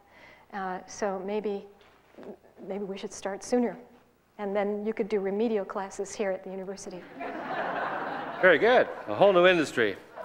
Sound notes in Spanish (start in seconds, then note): 7.0 risas